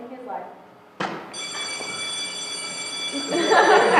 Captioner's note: bell rings; laughter